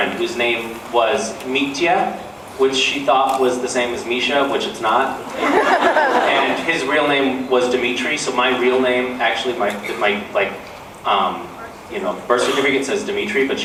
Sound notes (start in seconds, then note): 5.2 laughs